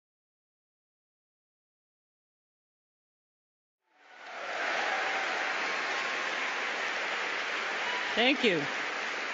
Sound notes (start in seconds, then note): 3.9 applause